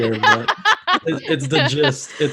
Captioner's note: laughter